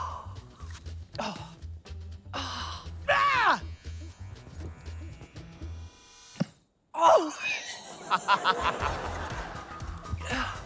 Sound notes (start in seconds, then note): 1.2 grunts; 7.8 laughter